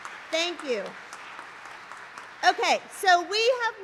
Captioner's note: applause